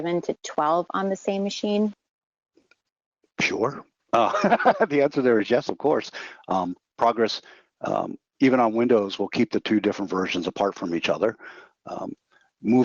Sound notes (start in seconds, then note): 4.1 laughs